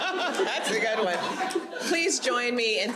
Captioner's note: audience laughs; laughs